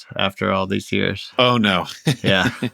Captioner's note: laughter